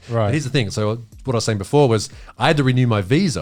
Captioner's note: all laughing